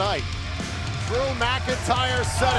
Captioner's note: bell ringing